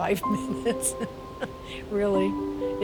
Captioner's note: chuckles